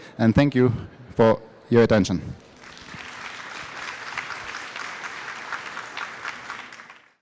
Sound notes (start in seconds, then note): 2.5 applause